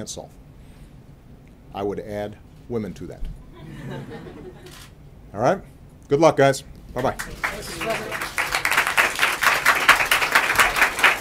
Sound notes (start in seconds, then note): 3.4 laughter; 7.0 applause